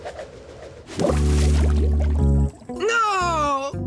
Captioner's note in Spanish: borboteo